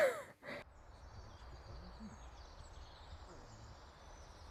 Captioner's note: birds chirping